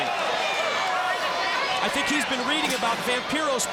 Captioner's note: crowd chatter